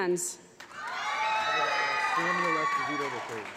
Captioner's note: applause